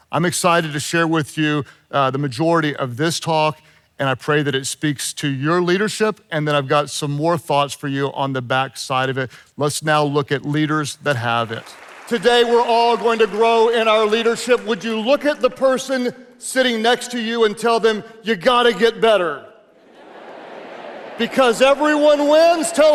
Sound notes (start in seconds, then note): 11.6 audience applauding; 20.1 audience chattering indistinctly